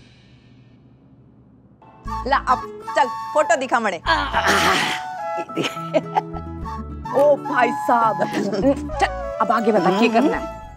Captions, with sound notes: Now show me the photos. [chuckling] Oh, man! Now tell me what to do next.